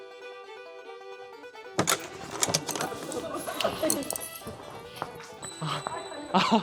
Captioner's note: crash, bang, boom